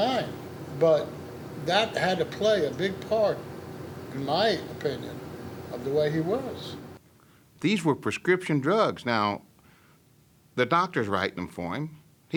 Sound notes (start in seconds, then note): none